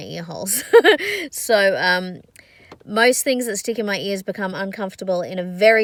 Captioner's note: scoffs